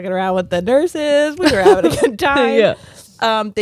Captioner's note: both laughing